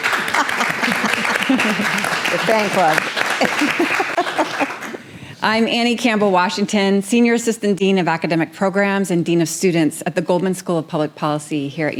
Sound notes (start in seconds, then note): 0.0 audience applauding; 0.1 chuckling; 3.0 chuckles